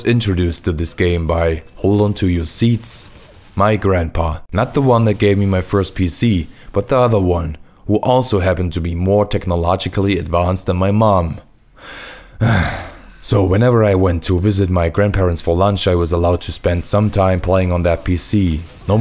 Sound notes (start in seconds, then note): 11.8 sigh